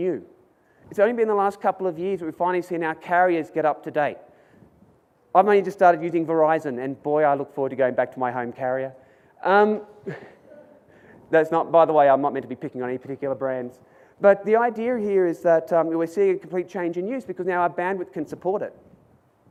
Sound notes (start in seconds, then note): 9.8 audience laughs